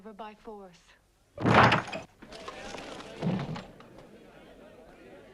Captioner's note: door bursts open